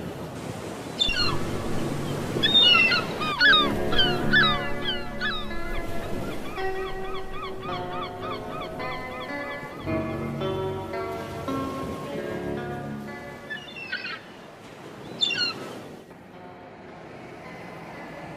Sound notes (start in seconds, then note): 0.1 gulls squawking; 4.2 gentle music; 8.0 gulls squawking; 15.2 gulls squawking